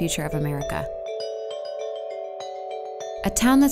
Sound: chimes

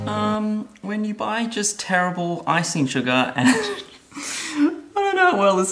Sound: laughs

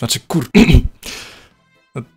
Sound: ahem

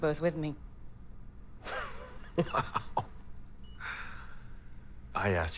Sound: chuckling

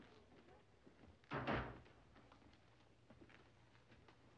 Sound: door closing

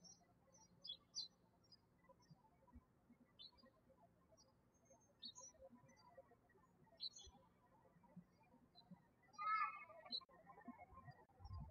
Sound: birds chirping

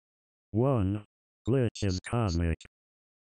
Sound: robot Voice

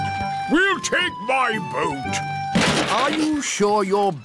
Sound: clattering

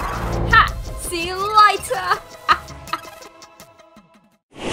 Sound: laughs

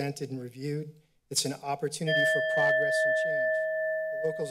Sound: timer sound

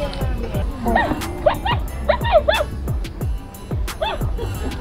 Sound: toy dog barking

